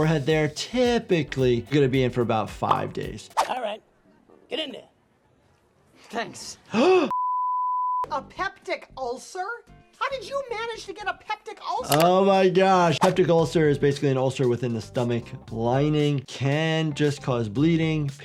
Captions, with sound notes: typically you're gonna be in for about five days. - All right, get in there. - Thanks. (doctor gasps) - A peptic ulcer? How did you manage to get a peptic ulcer? - Oh my gosh, peptic ulcer is basically an ulcer within the stomach lining. Can just cause bleeding, pain.